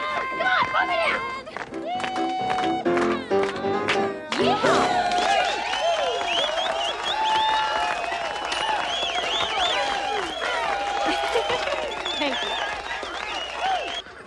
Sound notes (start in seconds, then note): 2.0 men cheering; 5.3 crowd cheering; 5.3 crowd clapping; 11.0 giggles